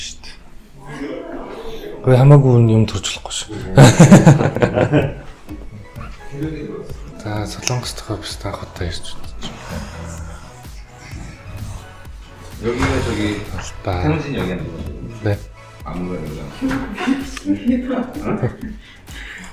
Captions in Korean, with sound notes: 만지지는 말아요! (웃음) 한국 사무실에 온 것은 처음이에요. 정말 멋있다고 생각해요!